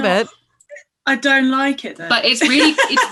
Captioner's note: laughs